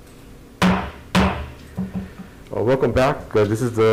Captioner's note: gavel bangs